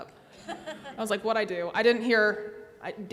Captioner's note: everyone laughs